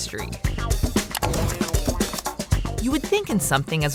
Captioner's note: keyboard clicking